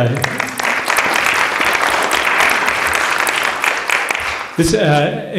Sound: applause

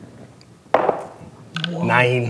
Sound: dice rolling

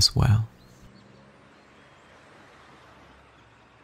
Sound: birds chirping

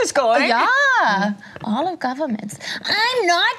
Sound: imitates German accent

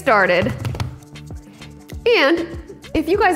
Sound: counter thuds

